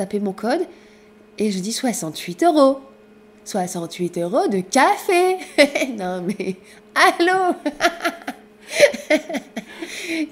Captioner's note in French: rires